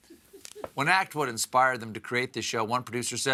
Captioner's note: laughter